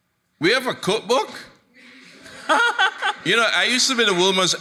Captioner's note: laughs